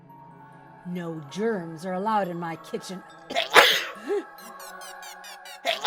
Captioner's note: sneezes; anxious electronic music